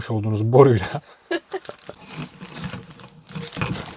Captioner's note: chuckling